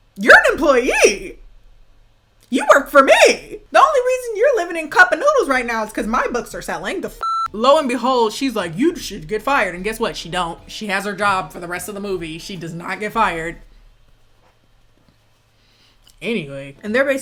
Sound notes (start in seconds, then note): 7.2 beep